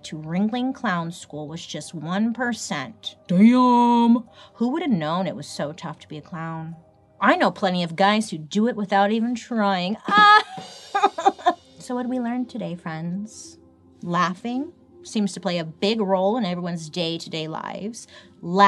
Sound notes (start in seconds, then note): 10.0 laughs; 10.3 cymbal crashes